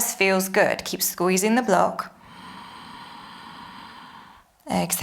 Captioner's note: inhales